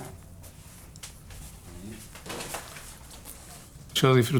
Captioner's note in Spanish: sonido de pasos y roce de papel